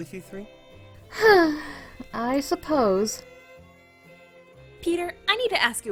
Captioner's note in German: seufzt